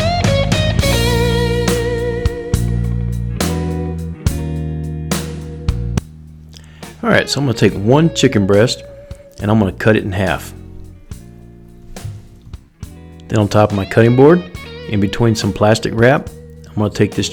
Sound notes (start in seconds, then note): 1.6 upbeat music; 6.6 voiceover